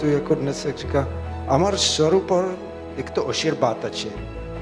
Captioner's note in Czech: Bengali speaking